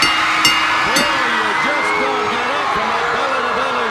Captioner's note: bell ringing; crowd cheering